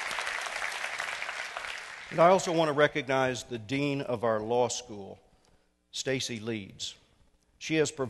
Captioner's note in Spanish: Aplauso